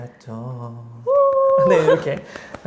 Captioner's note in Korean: 짝짝짝